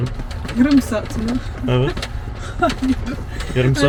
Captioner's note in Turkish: kahkaha